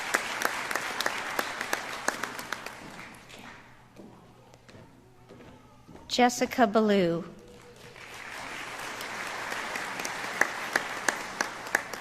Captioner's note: applause